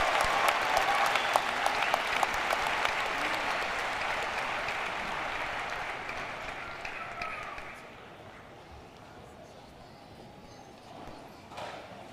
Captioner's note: cheers and applause